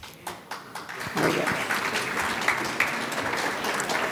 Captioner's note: audience claps